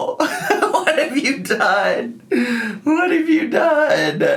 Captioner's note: laughing